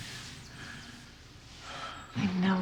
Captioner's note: sighs